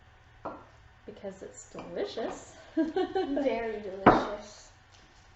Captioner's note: laughing; banging